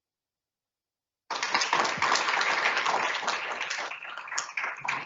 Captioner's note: audience applauds